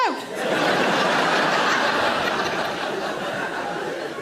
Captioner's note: audience laughs